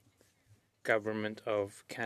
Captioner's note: speaking French